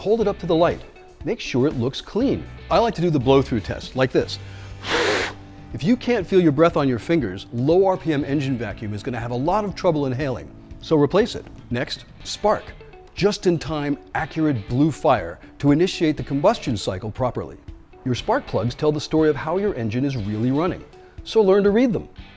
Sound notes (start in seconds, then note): 4.5 blows air